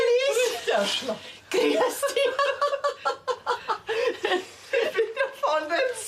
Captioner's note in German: lacht